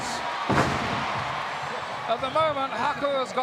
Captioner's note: audience cheering